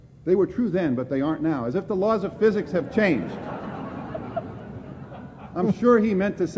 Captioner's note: laughter